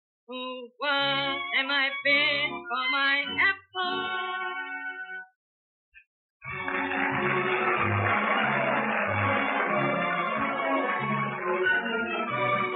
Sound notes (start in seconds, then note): 6.4 applause; 6.4 orchestra continues, refrain